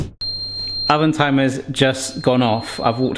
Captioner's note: oven beeps